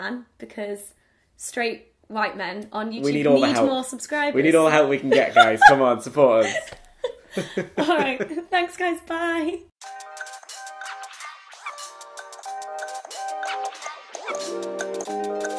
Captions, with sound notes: because straight white men on YouTube need more subscribers (laughs). - We need all the help we can get guys. Come on support us. - Thanks guys. Bye. (whimsical electronic music)